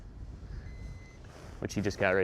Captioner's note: beeping